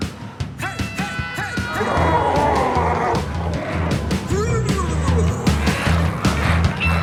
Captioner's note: glowzies growling